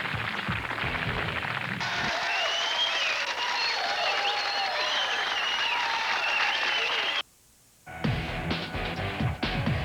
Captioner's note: rock music; cheers and applause; rock music